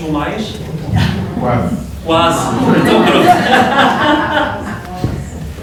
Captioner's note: laughter